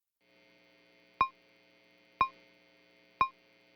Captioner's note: metronome ticking